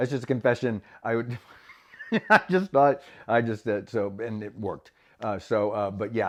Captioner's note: laughs